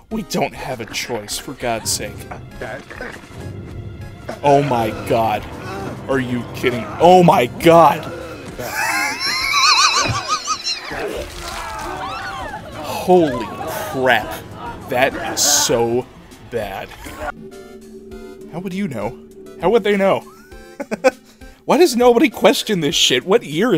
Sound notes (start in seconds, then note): 8.1 wheeze; 20.2 chuckle